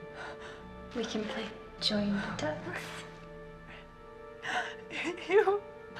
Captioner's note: Maggie Voiceover